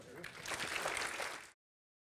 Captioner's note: audience applauds